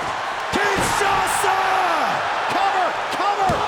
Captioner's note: audience cheers